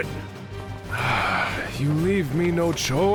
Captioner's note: sighs